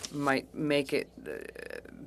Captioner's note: speaking French